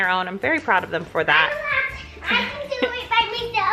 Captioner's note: chuckles